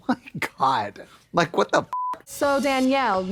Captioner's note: beep